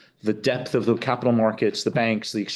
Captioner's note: none